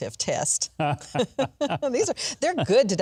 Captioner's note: both laughing